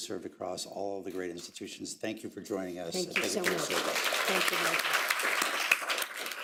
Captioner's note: applause